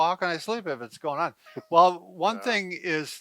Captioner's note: chuckles